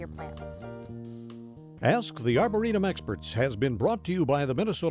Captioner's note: voiceover